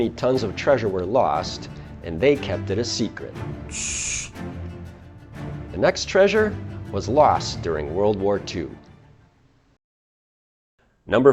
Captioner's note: shhh